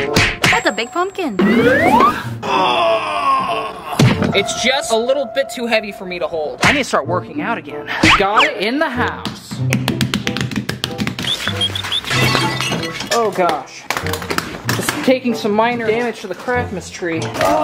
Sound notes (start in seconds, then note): 9.7 slapping; 11.1 funny music